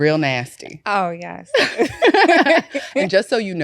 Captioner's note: both laughing